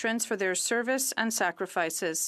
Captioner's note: speaking French